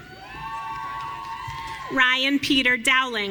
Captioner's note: audience cheering